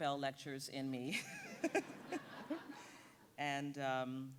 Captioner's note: audience laughing